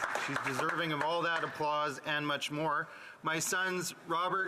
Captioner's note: some Applause